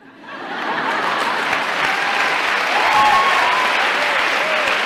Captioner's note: laughter